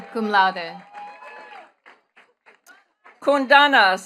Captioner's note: attendees cheering and clapping